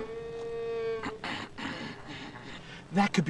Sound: cow mooing; clearing throat

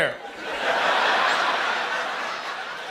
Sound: laughter

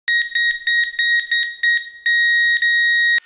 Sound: loud beeping

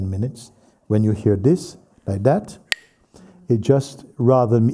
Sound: Mooji clacks the sticks

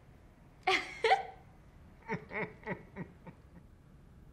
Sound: loud laughter

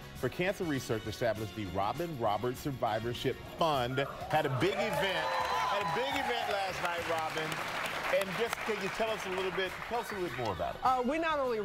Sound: applause

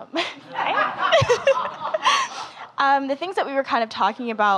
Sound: laughing

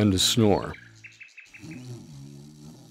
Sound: snoring

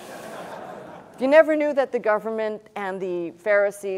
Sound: laughter

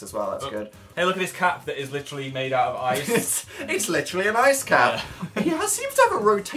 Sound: laughs

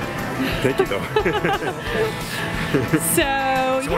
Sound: chuckling

